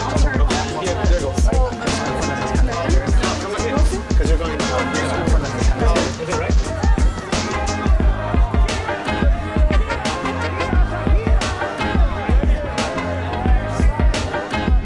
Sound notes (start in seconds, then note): 6.7 crowd chattering